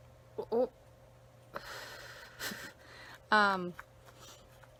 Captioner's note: exhales